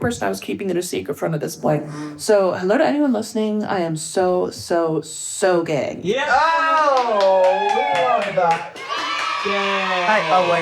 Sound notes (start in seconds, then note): 6.7 everyone cheering; 7.1 children cheering